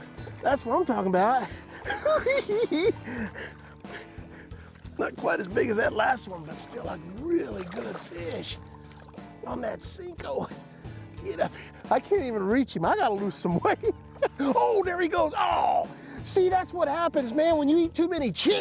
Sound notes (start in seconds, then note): 3.1 hoo hoo hee hee